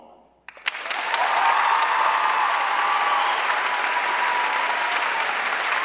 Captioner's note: audience cheering and applauding